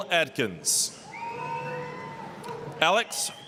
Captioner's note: applause, cheering